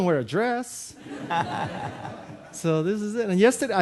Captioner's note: audience laughing